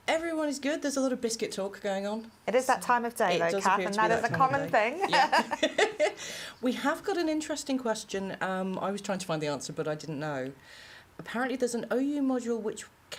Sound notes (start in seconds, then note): 4.1 laughter